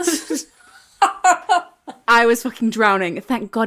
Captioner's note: laughing